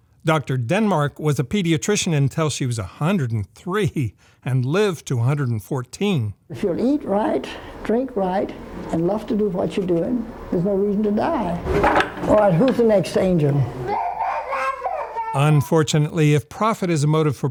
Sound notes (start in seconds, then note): 13.7 baby crying